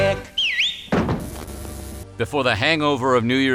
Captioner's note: singing; whistles